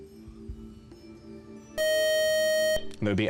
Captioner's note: time-out buzzer